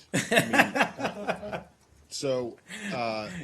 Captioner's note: laughter